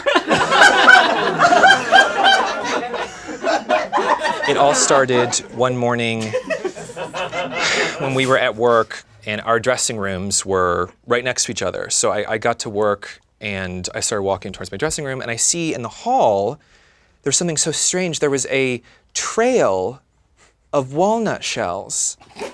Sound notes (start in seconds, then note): 0.3 laughing; 7.5 sighs